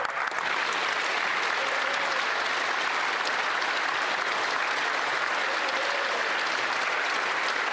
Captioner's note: speaking alternate language; applause